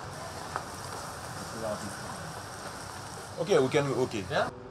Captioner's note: oyster sizzling; speaking in foreign language